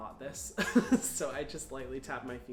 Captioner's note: chuckles